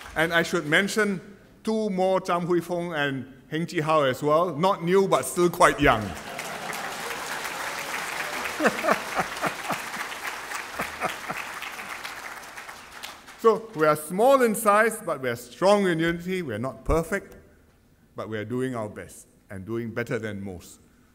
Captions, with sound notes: And I should mention two more, Cham Hui Fong and Heng Chee How as well, not new but still quite young. [Applause] We are small in size but we are strong in unity. We are not perfect but we are doing our best and doing better than most.